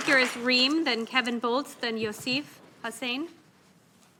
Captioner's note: applause